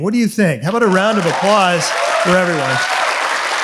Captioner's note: audience applauds